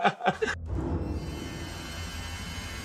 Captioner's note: laugh